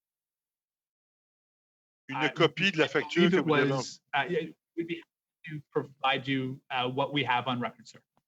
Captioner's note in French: voix de l'interprète